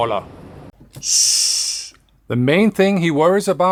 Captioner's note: hissing